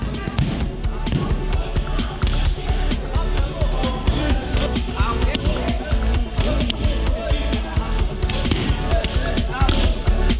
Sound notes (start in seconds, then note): 0.1 energetic techno music; 5.6 impacts